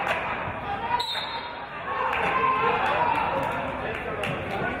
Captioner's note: referee's whistle